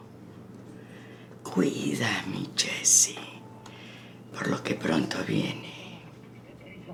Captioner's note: Spanish